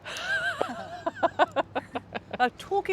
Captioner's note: both chuckle